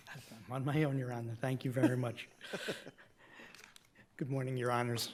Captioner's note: chuckles